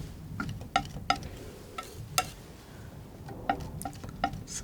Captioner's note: tapping